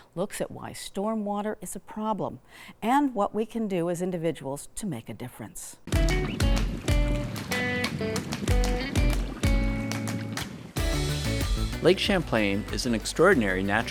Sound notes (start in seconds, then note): 5.9 water sloshing; 6.1 upbeat music